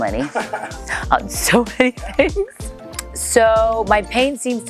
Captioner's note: laughs